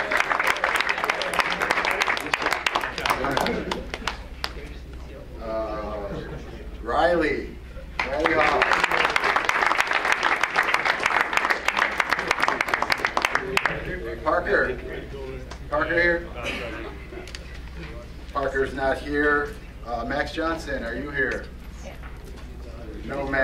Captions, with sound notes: (crowd applauds) Riley. (crowd applauds) Parker, Parker here? Parker is not here, Max Johnson, are you here?